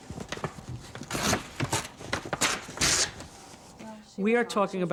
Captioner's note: ripping paper heart